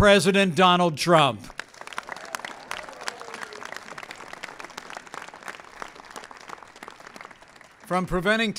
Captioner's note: applause